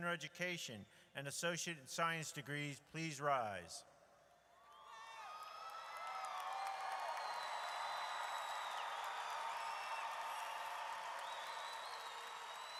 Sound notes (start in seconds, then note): 4.8 audience cheers